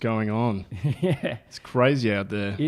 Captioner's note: laughs